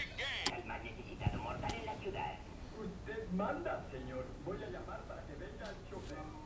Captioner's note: speaking spanish